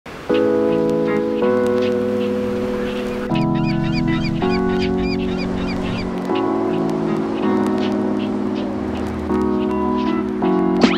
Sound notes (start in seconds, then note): 3.6 seagulls caw; 3.6 waves crash